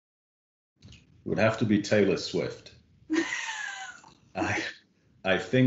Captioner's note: laughing